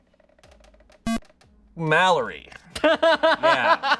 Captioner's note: electronic beep